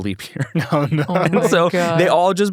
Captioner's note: laughs